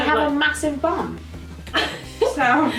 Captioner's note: laughs